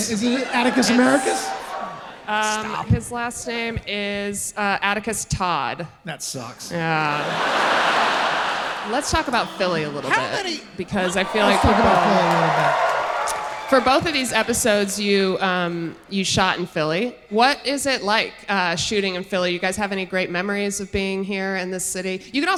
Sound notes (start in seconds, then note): 7.2 audience laughing